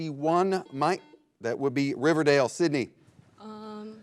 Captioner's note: buzzer blares